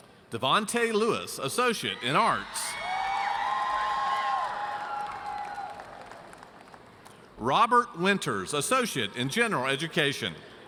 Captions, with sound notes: Devonte Lewis, Associate in Arts. (audience cheers) Robert Winters, Associate in General education.